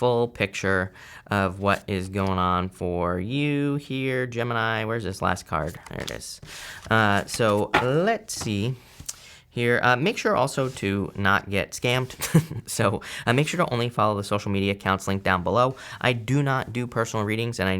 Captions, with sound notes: for a full picture of what is going on for you here, Gemini. Where's this last card? Here it is. So let's see here. Make sure also to not get scammed. (chuckling) So make sure to only follow the social media accounts linked down below. I do not do personal readings